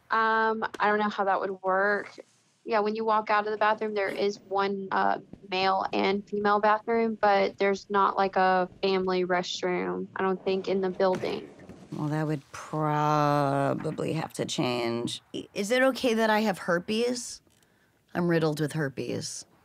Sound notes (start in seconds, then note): none